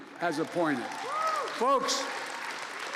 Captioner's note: applause